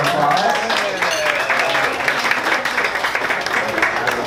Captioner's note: audience applauding